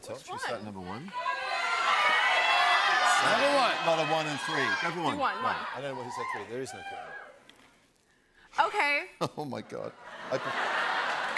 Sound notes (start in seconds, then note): 1.1 audience shouting; 10.1 laughs